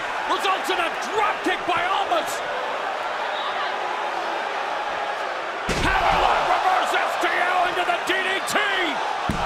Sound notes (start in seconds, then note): 1.8 crowd cheering